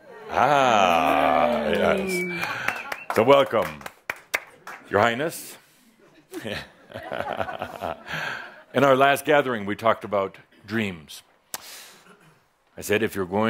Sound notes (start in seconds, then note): 0.1 audience agrees; 6.2 Adamus chuckles as he addresses Linda